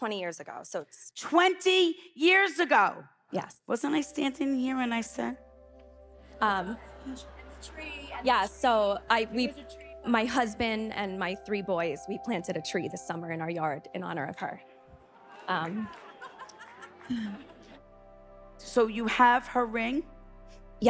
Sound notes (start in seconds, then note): 4.4 inspiring music; 6.5 audience laughing; 15.1 audience exclaiming; 16.6 inspiring music continues